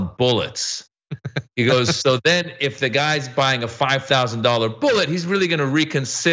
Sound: laugh

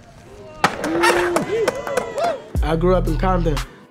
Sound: crowd cheers

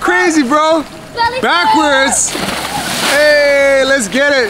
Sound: water splashes

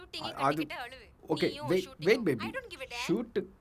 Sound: talking angry

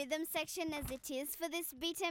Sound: none

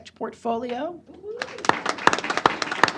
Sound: applause

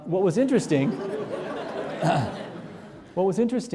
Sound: audience laughing

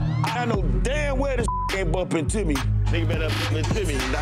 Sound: beep

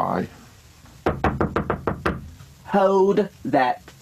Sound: knocking on the door

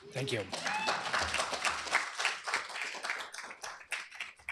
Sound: applause

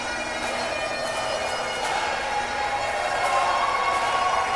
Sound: audience cheers

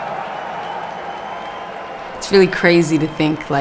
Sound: crowd cheers

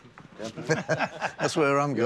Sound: laughs

